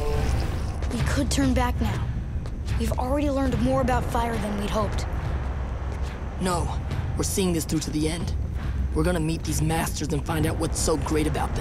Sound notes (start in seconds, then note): none